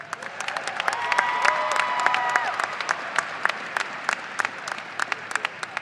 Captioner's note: audience applauding and cheering